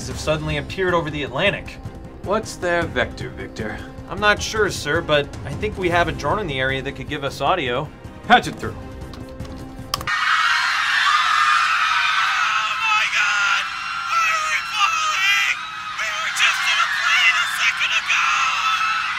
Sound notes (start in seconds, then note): 9.0 taps; 10.0 screaming